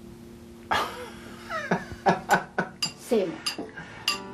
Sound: laughs

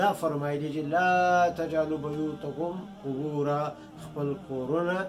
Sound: Arabic

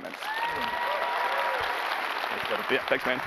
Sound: applause

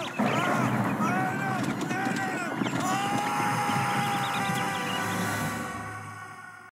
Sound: screams

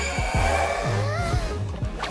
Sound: gasps

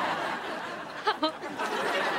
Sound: chuckles

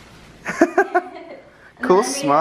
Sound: laughter

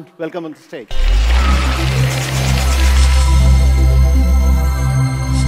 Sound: applause

